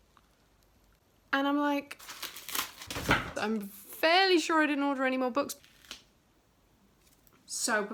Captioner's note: struggling